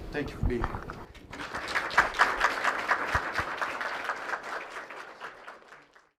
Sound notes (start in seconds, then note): 1.1 clapping